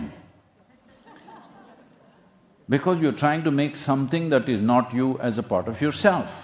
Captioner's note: laughter/Applause; laughter